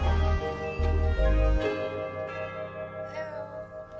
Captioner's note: doorbell rings